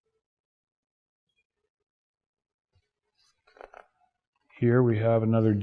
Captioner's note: turning pages